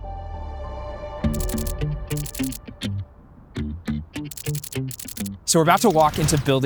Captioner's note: energetic music; typewriter clacking